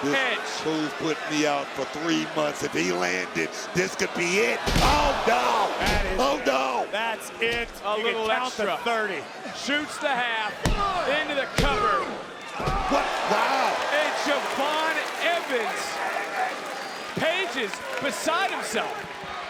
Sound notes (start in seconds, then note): 4.4 body thudding; 13.0 audience gasping